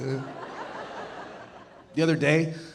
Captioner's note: audience laughing